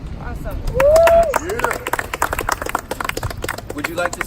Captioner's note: cheering